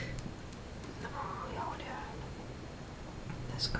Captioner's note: foregin language